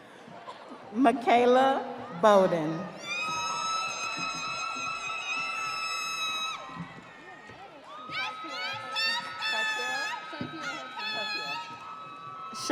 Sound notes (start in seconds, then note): 8.5 audience applauding; 8.5 audience cheering